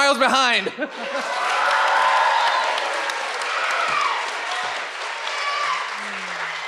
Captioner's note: audience applauds and cheers